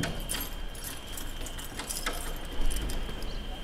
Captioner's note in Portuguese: Barulho de chaves